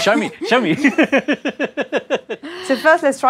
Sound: laugh

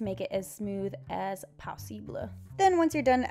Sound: French accent

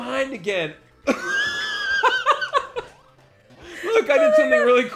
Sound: laughing

